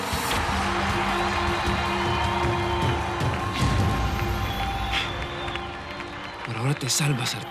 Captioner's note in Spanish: aclamaciones; aplausos